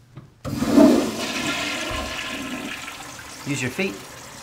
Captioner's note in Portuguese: Som de descarga